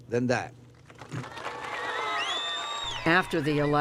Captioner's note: cheering and applause